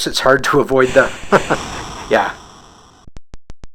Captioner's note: chuckles